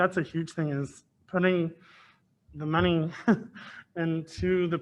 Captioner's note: laughs